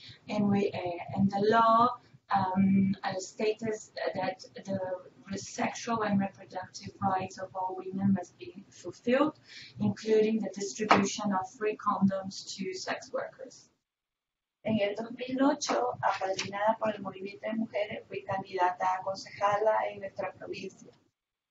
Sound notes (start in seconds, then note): 14.7 Spanish